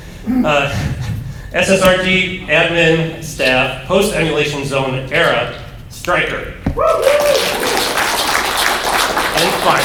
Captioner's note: applause